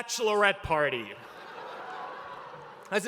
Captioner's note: laughter